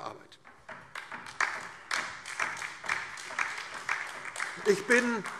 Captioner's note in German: Beifall DIE LINKE